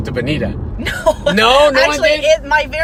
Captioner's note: laughs